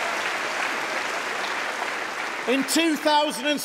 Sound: applause

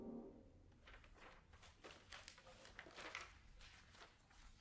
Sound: pages rustling

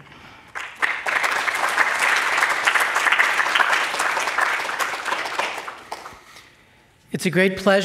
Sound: applause

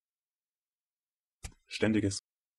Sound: fast Pronunciation

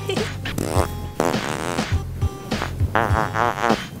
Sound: fart noise

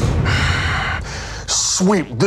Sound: repairman growling

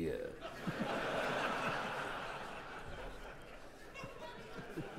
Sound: audience laughing

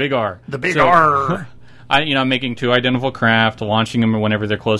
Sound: sounds like a pirate

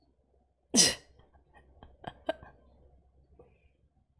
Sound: laughs

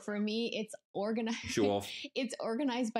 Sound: laughing

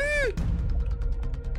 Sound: gasps

